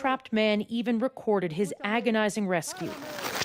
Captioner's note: speaking Alternate Language